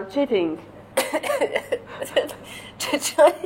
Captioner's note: coughs